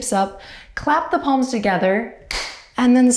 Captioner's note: claps